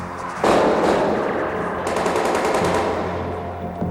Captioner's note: guns firing